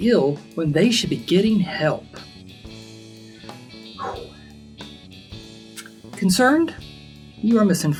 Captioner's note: exhale